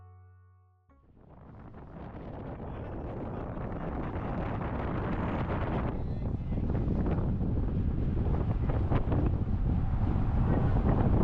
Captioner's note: background, Wind Sound Builds Up